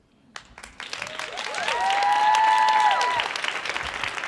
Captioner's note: audience cheering